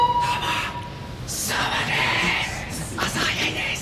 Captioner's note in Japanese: 小声で